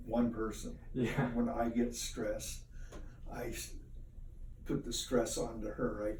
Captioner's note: giggle